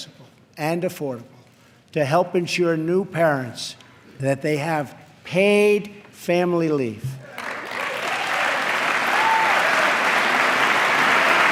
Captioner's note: applause